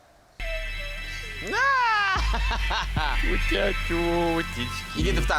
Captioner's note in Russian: смеётся